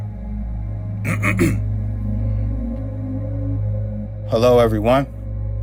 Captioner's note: ominous music; clears throat